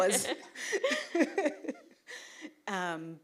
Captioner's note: laughter